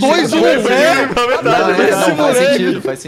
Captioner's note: laughing